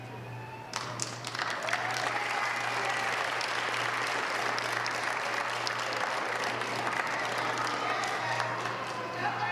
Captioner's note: applause